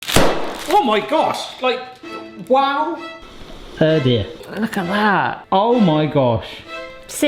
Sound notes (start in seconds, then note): 0.2 spaghetti smashes on counter; 3.5 tense orchestral music